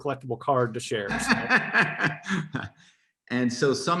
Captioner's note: laugh